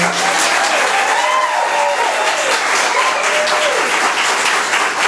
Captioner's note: cheering and applauding